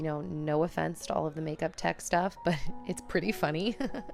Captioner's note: laughter